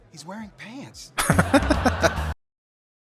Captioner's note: laughing